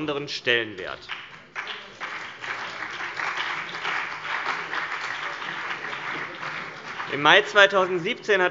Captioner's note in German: Beifall CDU und BÜNDNIS 90/DIE GRÜNEN